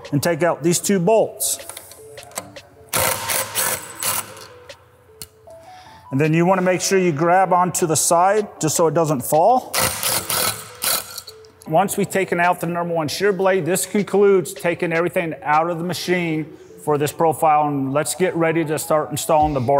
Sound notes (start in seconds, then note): 3.0 driver whirring; 9.8 driver whirring